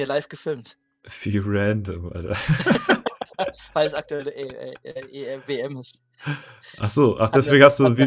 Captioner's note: laughter